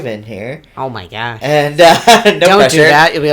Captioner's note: laughs